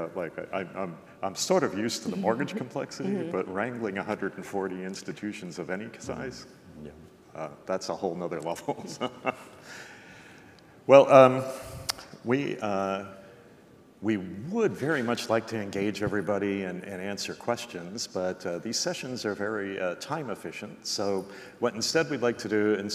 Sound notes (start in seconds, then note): 8.4 chuckles